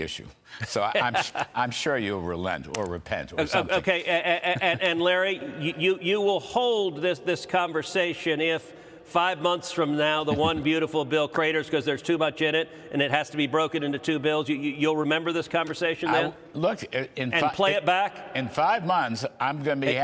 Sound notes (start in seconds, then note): 5.6 laughter